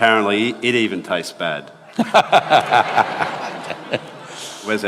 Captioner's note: laughter